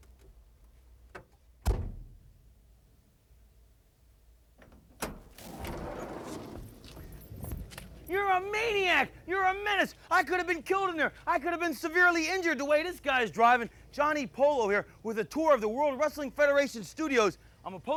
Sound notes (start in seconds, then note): 2.1 door latches